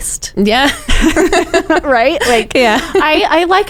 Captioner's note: both chuckling